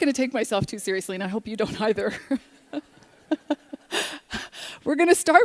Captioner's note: laughter